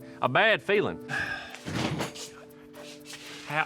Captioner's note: sighs